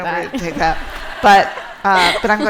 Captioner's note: laughter